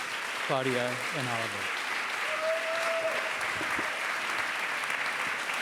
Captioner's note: cheering